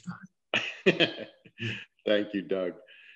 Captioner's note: laughs